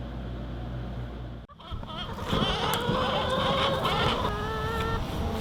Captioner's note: chickens clucking